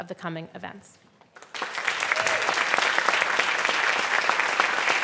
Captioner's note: applause